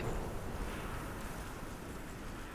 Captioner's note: grass rustles